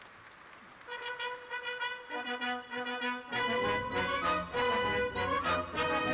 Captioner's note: applause